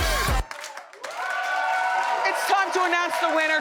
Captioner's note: audience claps and cheers